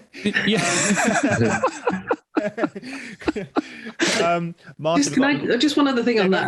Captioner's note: laughter